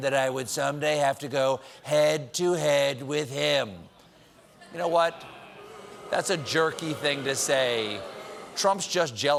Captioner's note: booing